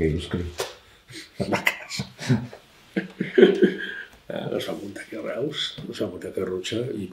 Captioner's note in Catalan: Riu